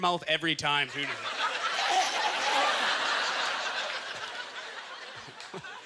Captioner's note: audience laughter